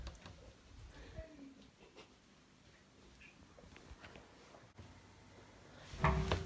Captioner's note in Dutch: lachen